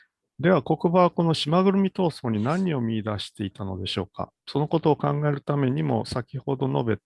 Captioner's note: speaks in Japanese